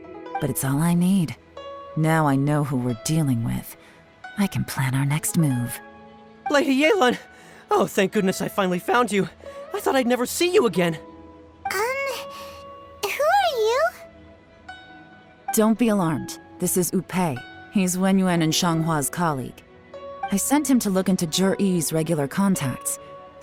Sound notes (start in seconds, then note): 12.1 sob